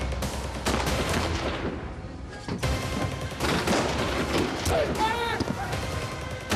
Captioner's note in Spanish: continúan los disparos